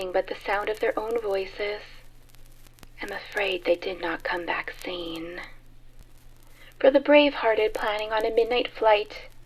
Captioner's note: whispered